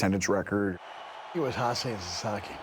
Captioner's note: crowd cheering